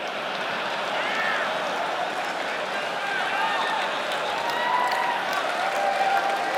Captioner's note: audience laughs quietly, scattered cheers